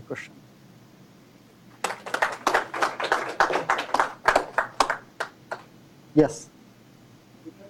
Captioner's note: applause